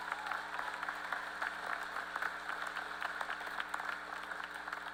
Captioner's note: applause